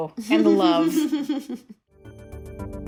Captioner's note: laughter